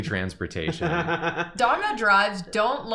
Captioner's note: laugh